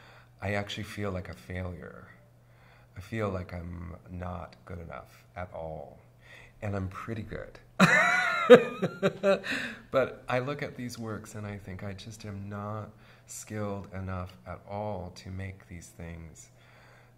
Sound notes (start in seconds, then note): 7.9 laughs